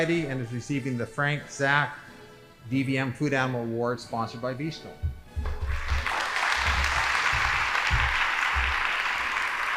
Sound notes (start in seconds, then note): 5.6 audience applauding